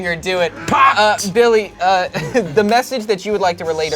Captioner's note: laughs